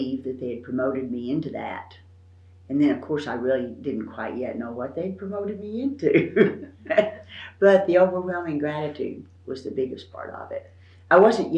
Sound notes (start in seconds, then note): 5.9 laughs